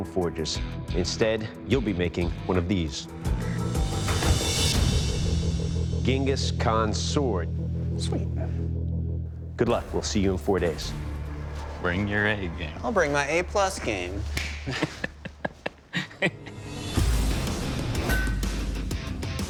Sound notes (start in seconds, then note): 14.2 laughs; 16.6 rock music